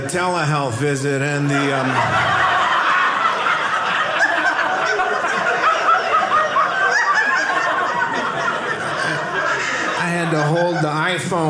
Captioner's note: audience laughing